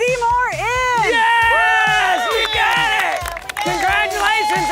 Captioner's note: crowd cheers